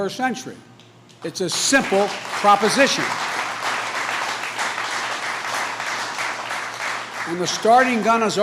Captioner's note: applause